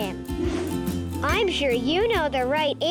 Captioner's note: air whooshing